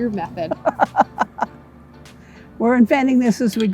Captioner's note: laughing